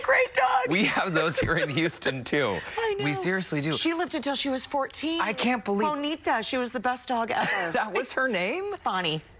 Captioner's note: laughter